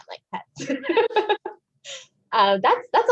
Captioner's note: chuckles